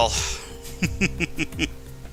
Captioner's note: laughing